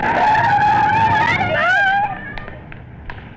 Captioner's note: tires squealing